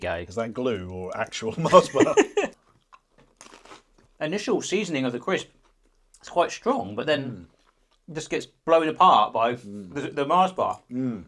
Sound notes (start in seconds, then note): 1.6 laughing